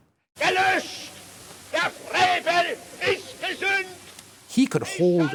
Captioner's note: speaking German